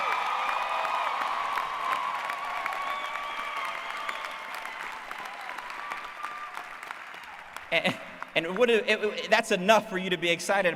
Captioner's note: applause